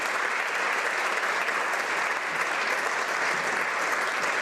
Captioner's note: applause